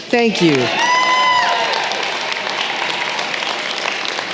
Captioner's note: applause